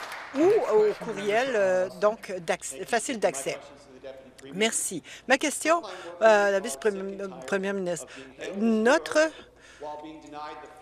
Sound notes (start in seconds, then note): 2.2 some Applause